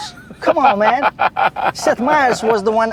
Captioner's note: laughs